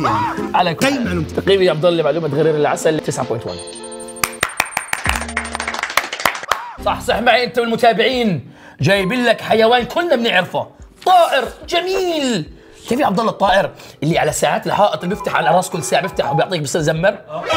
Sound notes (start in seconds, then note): 4.2 applause